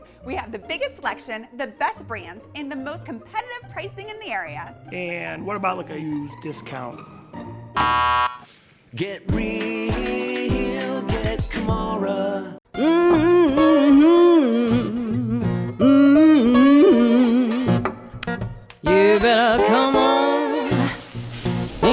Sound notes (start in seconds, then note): 6.8 playful music; 7.8 shop attendant pressing buzzer; 12.8 singer humming a tune; 15.6 upbeat music